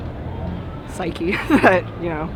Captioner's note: laughs